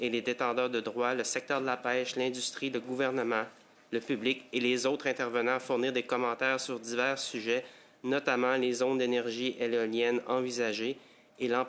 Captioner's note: speaking French